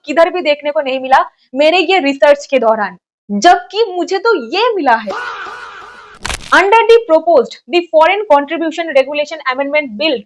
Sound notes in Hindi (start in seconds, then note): 5.1 चीखने की आवाज़